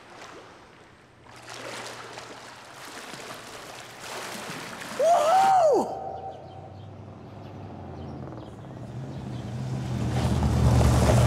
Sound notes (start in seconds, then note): 6.7 car rumbles